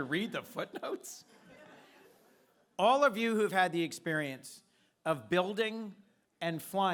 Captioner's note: laughter